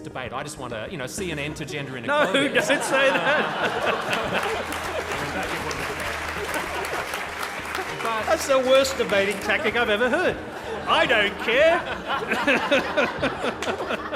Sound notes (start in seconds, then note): 3.9 laughter and clapping; 10.5 laughter